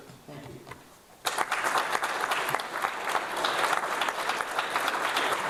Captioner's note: audience applauds